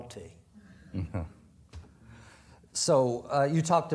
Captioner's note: chuckles